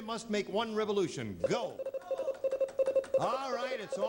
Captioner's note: beeping